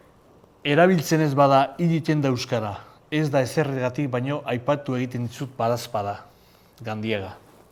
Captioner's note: reciting it in Euskara